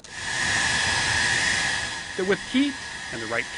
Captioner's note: hair dryer blowing